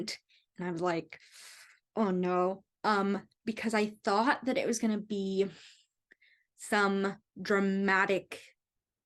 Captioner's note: suck in of breath through the teeth